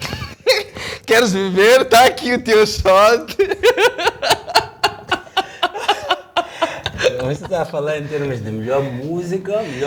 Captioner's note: laughs